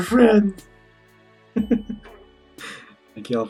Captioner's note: chuckles